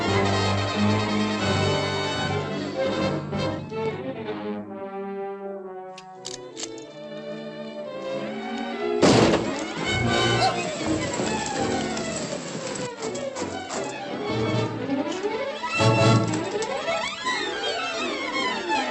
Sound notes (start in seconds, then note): 6.0 rifle cocks; 9.0 gunshot; 13.9 dramatic music